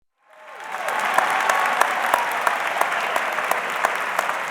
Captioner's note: audience cheering